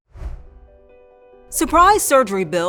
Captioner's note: air whooshing